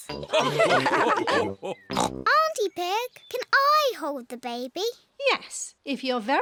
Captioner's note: all laugh